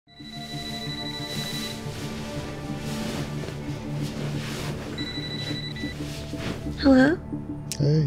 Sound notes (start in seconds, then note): 0.1 phone ringing